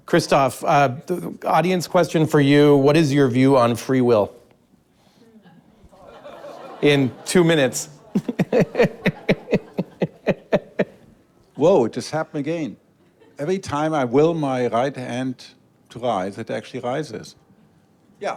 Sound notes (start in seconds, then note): 8.0 laughs; 8.2 audience laughs